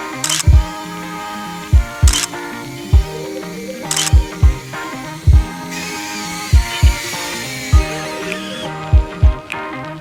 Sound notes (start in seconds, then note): 0.0 camera clicks; 2.1 camera clicks; 5.0 upbeat music